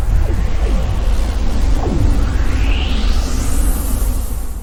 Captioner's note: wind whooshing